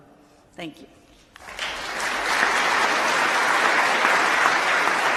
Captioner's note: applause